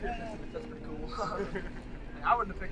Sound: laughs

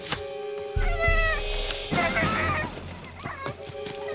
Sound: squealing

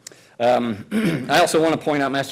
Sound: clears throat

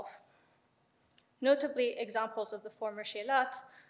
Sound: speaks in foreign language

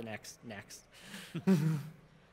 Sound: chuckling

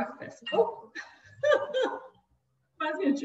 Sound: laughs

